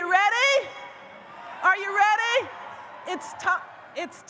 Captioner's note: audience cheers